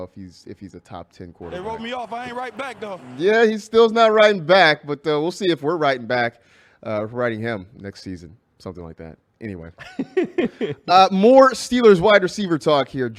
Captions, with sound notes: >> THEY ROLLED ME OFF I WROTE BACK YET. >> HE MAY NOT OF RIGHT BACK BUT WE'LL SEE IF WE ARE WRITING BACK RIGHT NOW NEXT SEASON. [LAUGHS] >> MORRISSEY WAS RIGHT OR SUPER TALK HERE, GEORGE PICKENS BE A